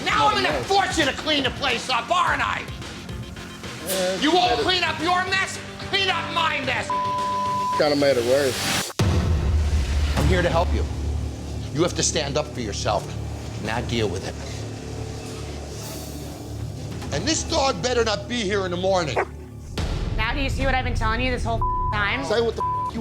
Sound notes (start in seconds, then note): 6.9 beep; 19.1 dog barks; 22.6 beep